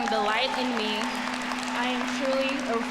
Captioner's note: audience cheering; audience applauding